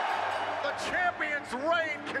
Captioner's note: fans chanting; bell ringing